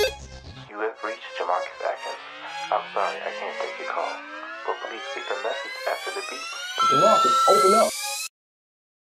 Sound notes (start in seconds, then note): 0.6 voicemail; 6.7 phone beep tone